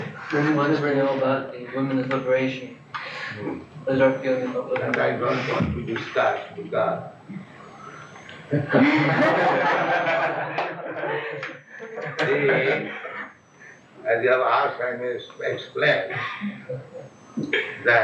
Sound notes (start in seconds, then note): 10.4 laughs; 11.4 laughter